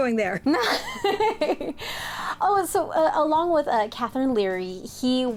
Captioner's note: laughs